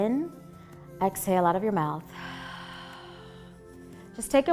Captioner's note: exhaling